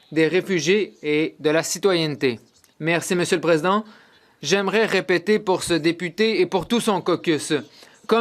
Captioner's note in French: voix de l'interprète